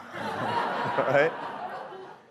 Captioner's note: audience laughing